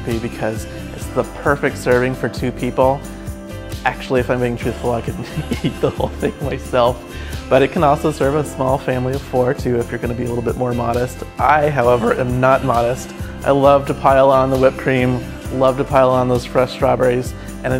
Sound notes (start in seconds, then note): 5.2 laughs